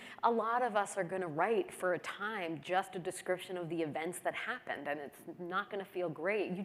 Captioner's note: none